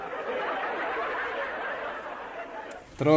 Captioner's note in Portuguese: risos